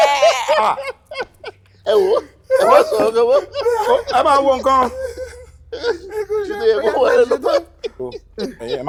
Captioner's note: everyone laughs